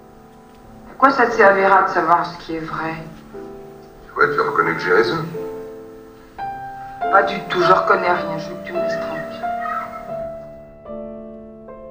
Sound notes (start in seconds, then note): 0.8 voiceover of woman speaking in french; 4.1 voiceover of man speaking in french; 7.1 voiceover of woman speaking in french; 9.7 sad piano music